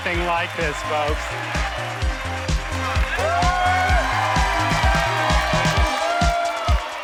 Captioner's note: bouncy pop music; participants cheering; participants applauding